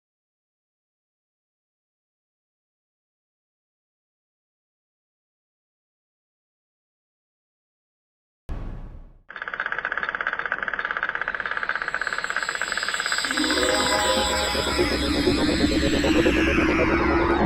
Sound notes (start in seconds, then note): 9.3 clacking; 9.4 whirring; 13.0 mysterious music